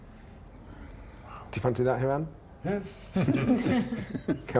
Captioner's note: laughter